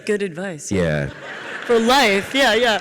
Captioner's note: audience laughs